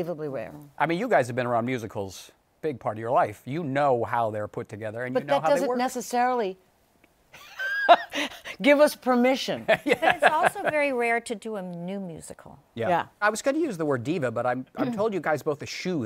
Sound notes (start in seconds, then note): 9.6 laughing; 9.6 laughs